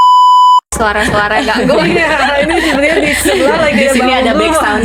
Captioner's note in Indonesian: tertawa